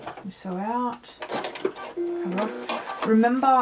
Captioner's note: sewing machine beeping